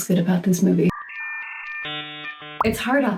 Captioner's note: dial-up internet noise